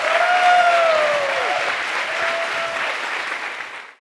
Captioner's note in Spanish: Aplausos